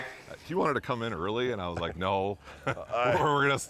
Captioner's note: laughs